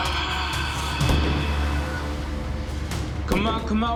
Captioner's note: gunshots in background